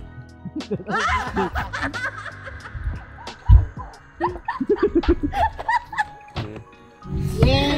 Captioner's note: laugh